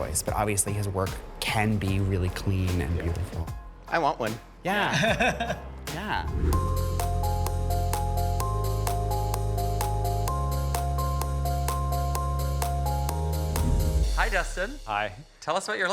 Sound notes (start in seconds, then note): 4.9 person chuckling; 6.2 image whooshes; 7.5 gentle upbeat music